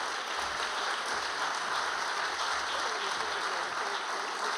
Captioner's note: audience applauding